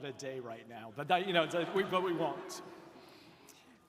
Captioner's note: audience laughs